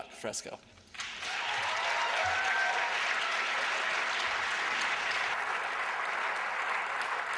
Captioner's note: aplausos